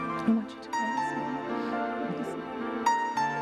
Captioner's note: whispering